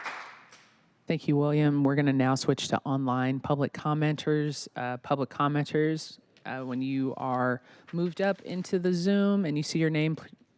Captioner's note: applause